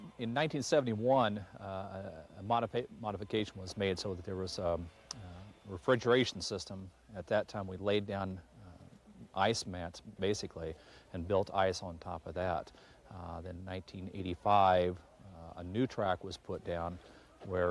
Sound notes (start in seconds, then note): none